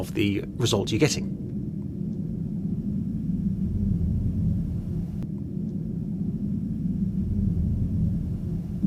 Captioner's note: sound of military jet flying overhead